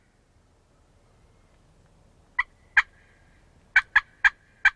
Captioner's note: squawking begins